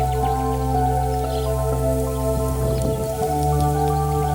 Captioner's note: wind in grass, birdsong